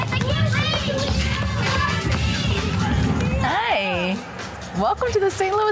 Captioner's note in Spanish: niños parloteando